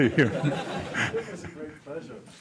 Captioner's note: laughter